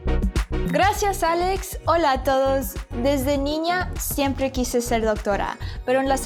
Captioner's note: speaking in Spanish